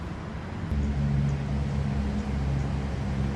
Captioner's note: sound of cars passing